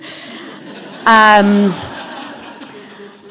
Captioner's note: laughter